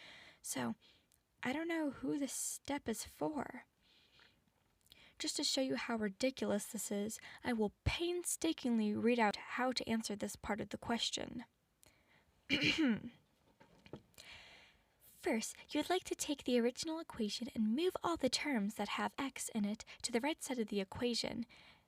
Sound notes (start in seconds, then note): 12.5 clears throat and coughs aggressively